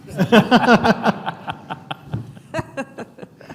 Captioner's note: laughing